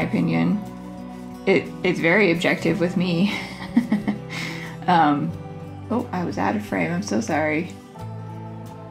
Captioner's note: laugh